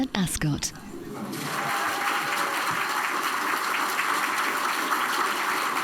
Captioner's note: audience applauds